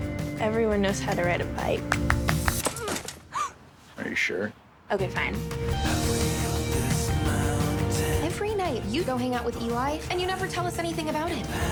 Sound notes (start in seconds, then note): 2.4 gasps; 5.3 indie rock continues